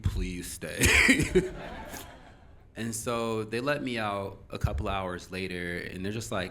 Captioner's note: audience Laughing